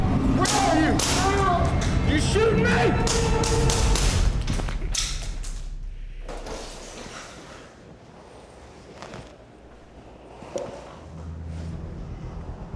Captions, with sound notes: (two gun shots) - You shooting me? (four gun shots)